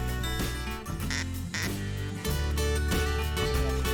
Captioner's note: duck call; bluegrass music